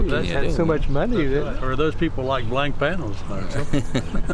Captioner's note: laughter